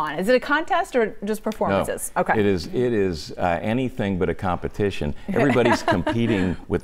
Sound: laughter

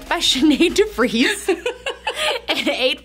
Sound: laughing

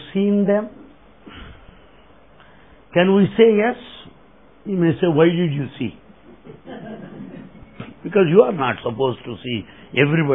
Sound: laughter

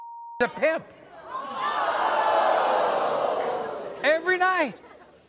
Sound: audience boos

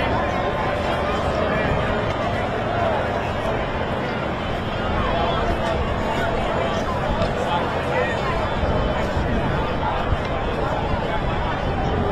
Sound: crowd noise

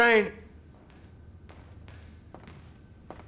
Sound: footsteps approaching

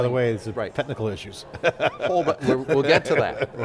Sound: laughing

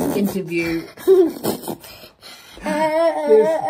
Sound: laughs

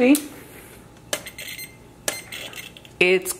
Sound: meter beeps

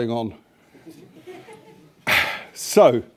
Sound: laughter

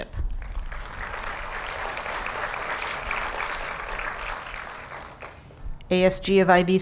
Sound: applause

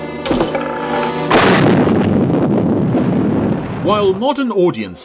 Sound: dramatic music; grenade explodes

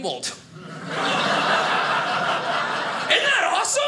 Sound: audience laughing

